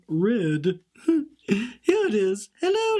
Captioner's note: laughs quietly